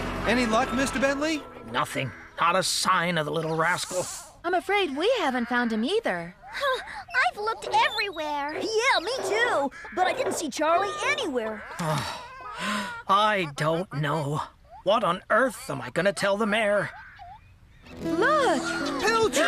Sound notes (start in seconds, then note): 11.6 sighs